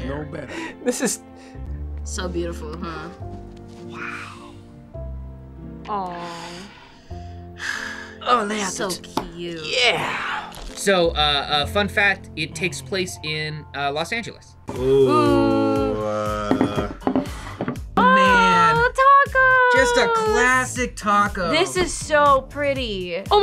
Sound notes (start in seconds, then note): 4.3 whispers; 6.0 sighs